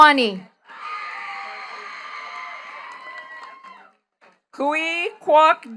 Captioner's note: attendees cheering and clapping